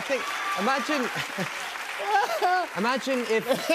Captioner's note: applause